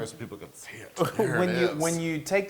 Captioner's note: laugh